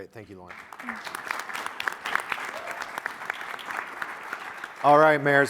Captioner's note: audience applauding